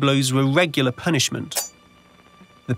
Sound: machete chop

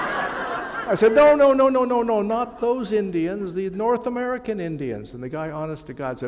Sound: laughter

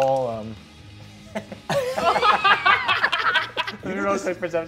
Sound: all laugh

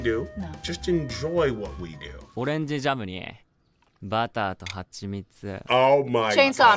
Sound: man speaking Japanese

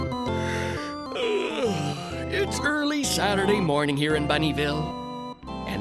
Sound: yawns

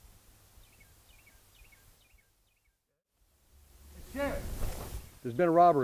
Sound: bird tweets

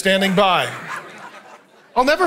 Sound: congregation laughing

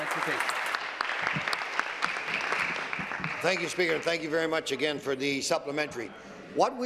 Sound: applause

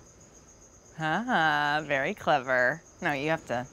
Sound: wryly

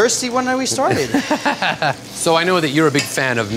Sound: laughs

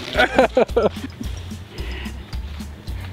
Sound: laughing

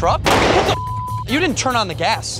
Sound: explosion

